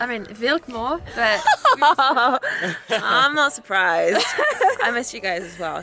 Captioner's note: laughing